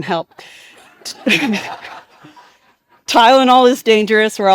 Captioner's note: participants laughing